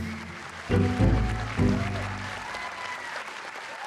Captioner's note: applause